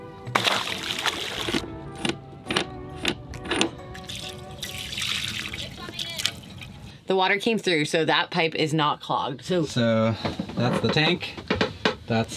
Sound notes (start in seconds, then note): 0.2 water splashing; 4.0 water pouring